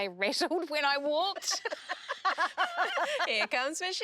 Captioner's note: laughing